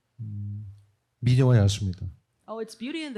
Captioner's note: speaking korean